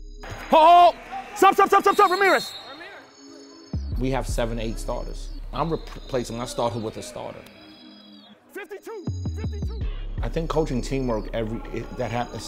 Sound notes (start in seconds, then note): 2.5 overlapping chattering; 2.5 whistle tweets